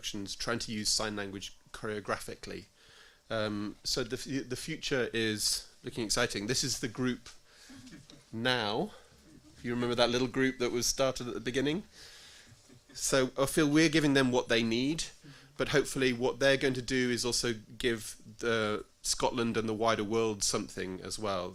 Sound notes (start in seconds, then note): 9.2 audience gentle laughter